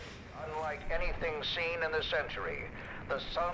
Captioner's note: radio Voice